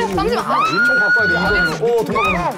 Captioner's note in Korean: 온갖 괴성 난무ㅋㅋㅋ